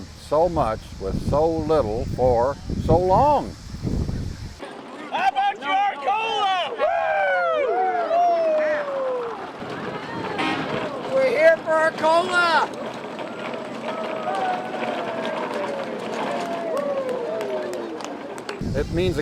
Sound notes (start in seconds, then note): 10.2 applause; 15.1 wheels turning